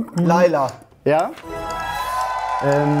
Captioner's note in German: Jubel, Applaus